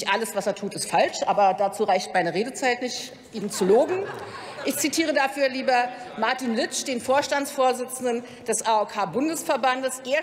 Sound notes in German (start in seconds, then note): 3.4 Heiterkeit bei der LINKEN sowie bei Abgeordneten des BÜNDNISSES 90/DIE GRÜNEN